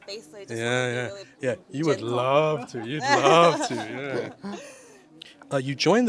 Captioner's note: sarcastically